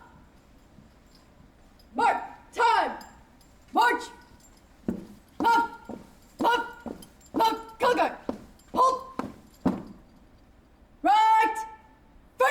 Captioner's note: indistinct chatter